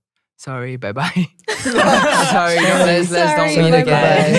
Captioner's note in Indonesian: tertawa